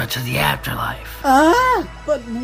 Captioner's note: Fuu2 gasps